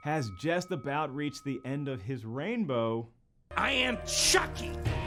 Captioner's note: bell rings